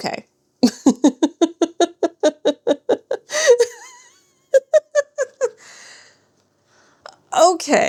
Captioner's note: laughter